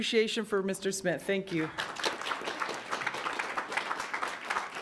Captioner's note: audience applauds